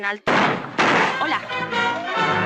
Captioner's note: gunshots; tense music